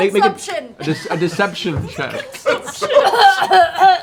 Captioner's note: chuckles